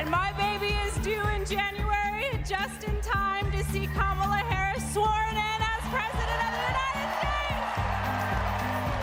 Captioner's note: cheers and applause